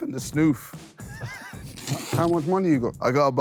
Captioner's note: Sidemen laugh